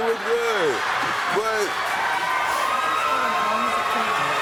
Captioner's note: audience cheering